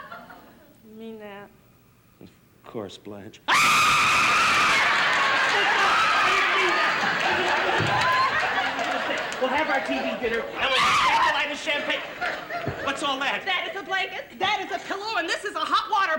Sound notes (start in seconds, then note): 3.4 loud scream; 10.6 Carol screams